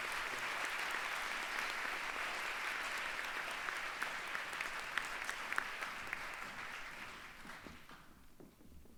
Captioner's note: aplause